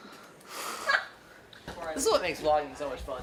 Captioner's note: laughs